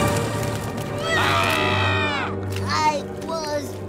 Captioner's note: screaming